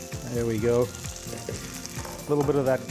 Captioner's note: pan juices sizzling